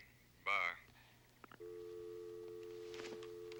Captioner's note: line disconnects